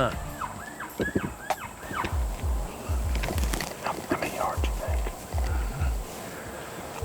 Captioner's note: whispering